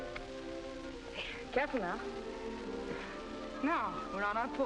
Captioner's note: birds chirping